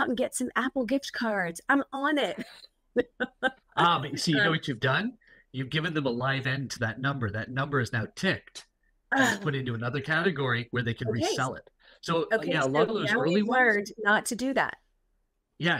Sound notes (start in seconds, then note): 3.7 laughing